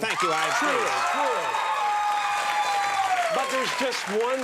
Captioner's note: audience cheers